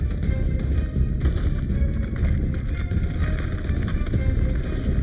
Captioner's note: body thuds